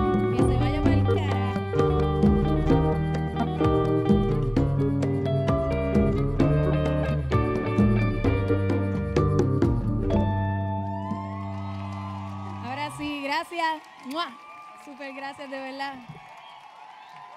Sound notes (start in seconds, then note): 10.4 audience cheering; 10.6 audience applauding